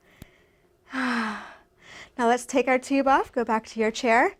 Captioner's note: breathes